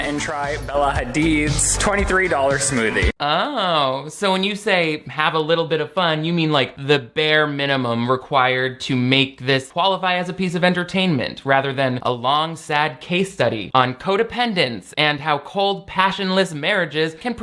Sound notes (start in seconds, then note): none